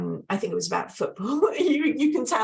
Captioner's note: laughs